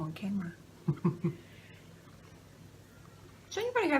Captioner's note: laughter